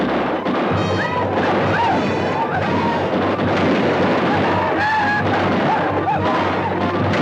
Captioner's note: guns fire; Apaches howl